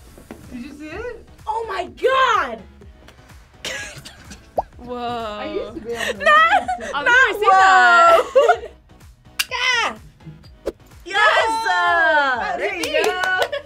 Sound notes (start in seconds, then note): 3.9 laughs; 5.9 laughs